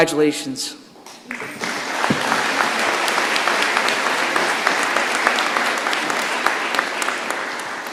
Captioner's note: applause